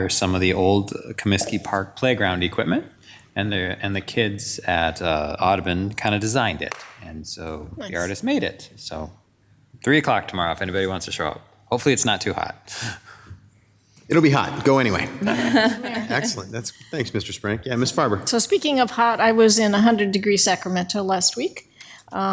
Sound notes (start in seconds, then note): 13.5 chuckles; 15.0 all chuckling